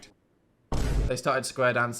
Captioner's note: thud booms